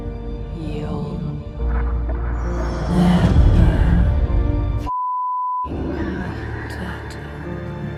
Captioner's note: beeping